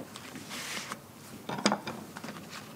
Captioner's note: clattering